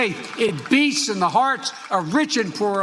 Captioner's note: applause